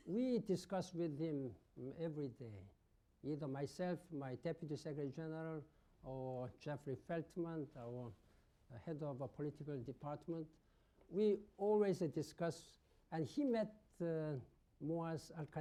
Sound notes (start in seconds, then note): none